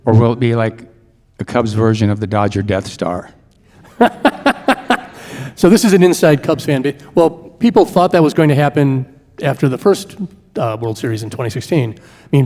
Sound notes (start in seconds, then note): 3.8 laughing